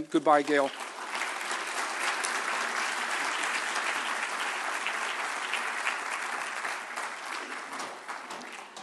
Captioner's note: applause